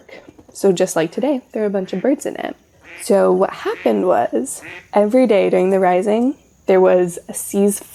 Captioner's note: duck sounds